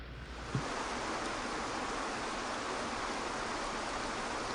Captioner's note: water rushing